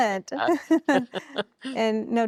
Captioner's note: laughing